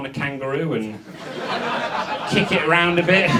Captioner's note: audience laughs